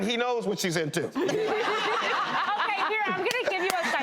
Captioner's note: laughs